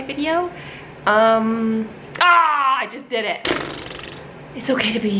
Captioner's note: groans; blows raspberries